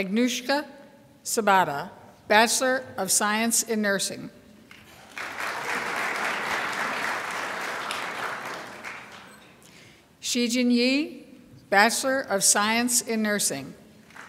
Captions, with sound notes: Agnieszka Sobota, Bachelor of Science in Nursing. (crowd applauds) Shijin Ye, Bachelor of Science in Nursing.